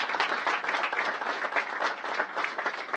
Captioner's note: applause